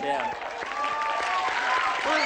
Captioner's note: cheering